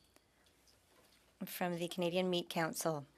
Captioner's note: speaking French